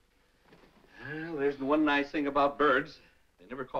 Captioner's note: sighing